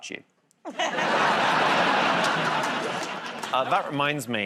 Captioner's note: laughter